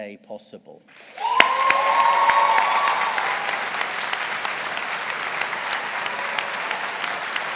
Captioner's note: audience applauding